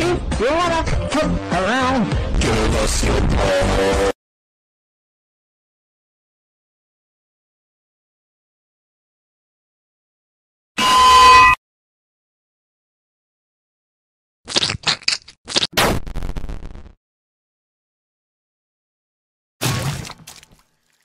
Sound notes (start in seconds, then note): 14.4 Crunch